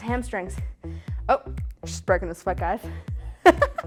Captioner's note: laughs